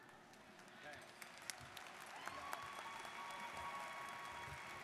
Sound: students applauding

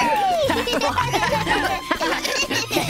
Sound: laughing

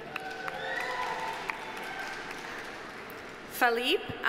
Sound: audience applauding

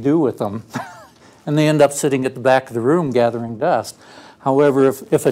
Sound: laugh

